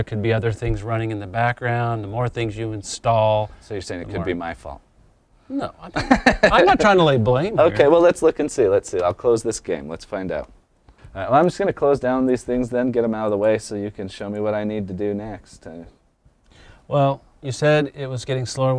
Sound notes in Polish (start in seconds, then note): 5.9 śmiech